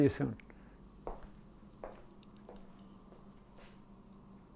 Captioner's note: footsteps thumping